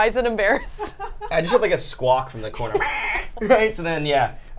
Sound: squawking

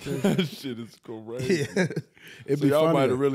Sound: chuckles

